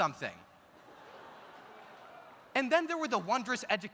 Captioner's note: audience laughs